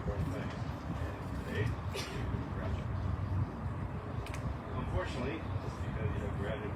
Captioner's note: audience member sneezes